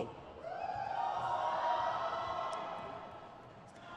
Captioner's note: crowd cheers